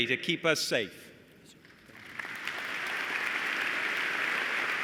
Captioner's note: applause